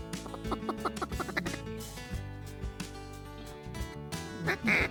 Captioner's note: duck call quacking